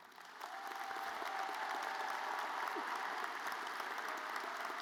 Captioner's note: audience applauds